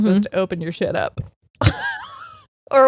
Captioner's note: laughing